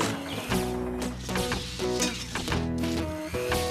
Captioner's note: mixer Whirring